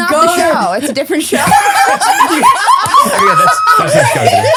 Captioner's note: all laughing